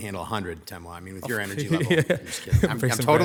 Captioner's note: laughs